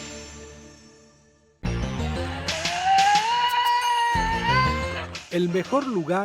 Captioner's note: tasmanian devil's sound